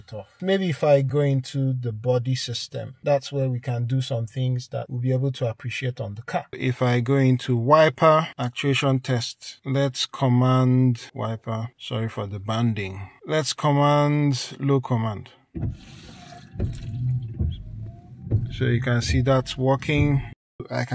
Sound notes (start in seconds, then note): 15.5 wiper sound